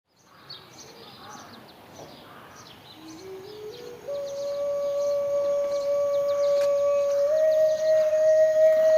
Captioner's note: outdoor noises, birds chirping